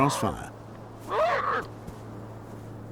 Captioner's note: seal pup moans